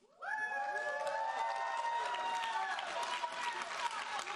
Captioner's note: audience cheering